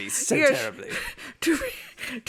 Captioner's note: laughs